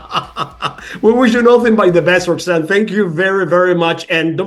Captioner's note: laugh